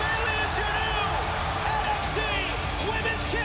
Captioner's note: bell ringing